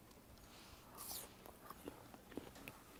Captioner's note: crunches